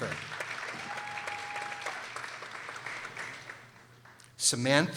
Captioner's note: people applauding